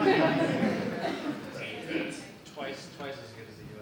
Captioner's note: audience laughing